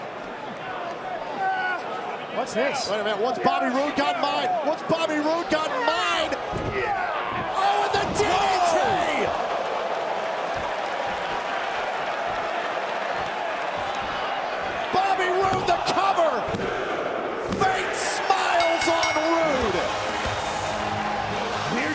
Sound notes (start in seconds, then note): 11.9 crowd cheering